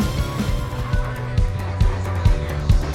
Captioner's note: none